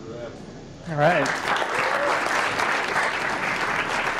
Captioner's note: applause